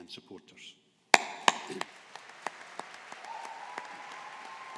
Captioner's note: audience applauding